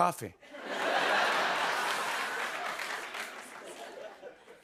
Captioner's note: laughter and applause